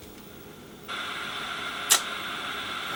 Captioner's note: static